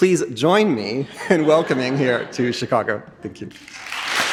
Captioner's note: audience laughing; chuckles